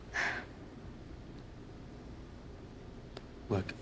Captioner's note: Jane sighs